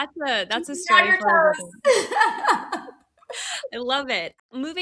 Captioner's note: laughs